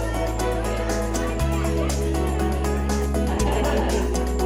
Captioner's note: students murmuring